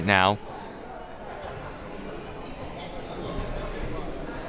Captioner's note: crowd murmuring